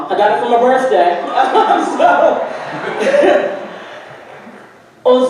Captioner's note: audience laughing